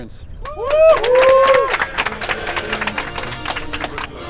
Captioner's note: cheering and Applause